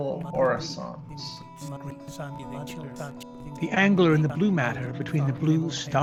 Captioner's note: glitches and blips continue